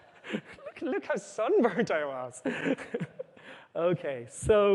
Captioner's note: laughter; laughs